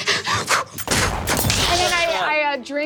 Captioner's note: mimics gunshot